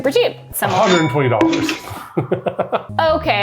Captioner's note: laughs